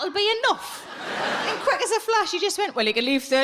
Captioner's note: audience laughs